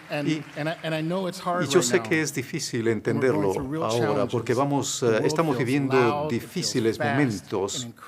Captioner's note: applause